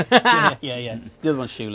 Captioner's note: both laugh